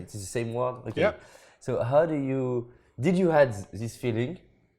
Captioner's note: French